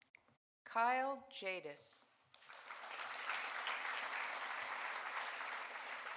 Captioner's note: audience applauding